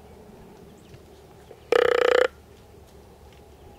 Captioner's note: blowing grunt call